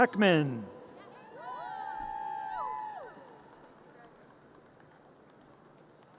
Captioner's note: audience cheers and applause